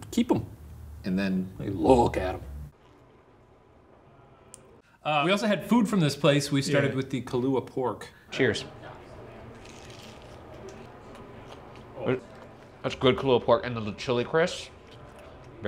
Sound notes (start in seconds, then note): none